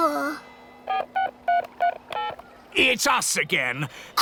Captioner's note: dialing